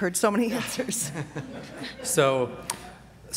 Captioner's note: laughter